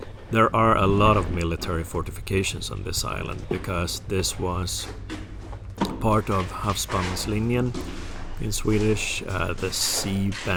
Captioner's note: in Swedish